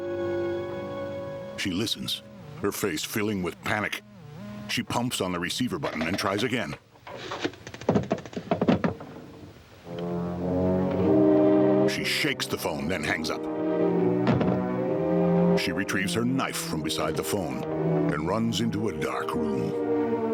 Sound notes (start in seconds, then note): 1.6 strange static; 5.8 clicking; 9.9 ominous instrumental